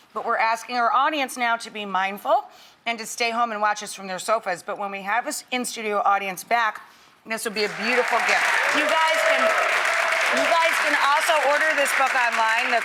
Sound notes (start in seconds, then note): 7.6 audience applauding